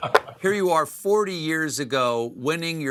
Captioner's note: laughing